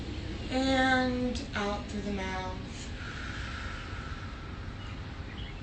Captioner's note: inhales deeply; exhales deeply